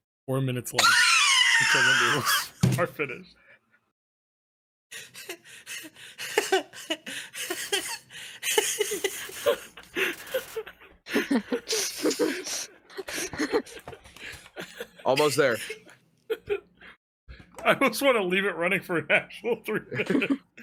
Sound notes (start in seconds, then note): 4.9 laughs; 9.0 all laughing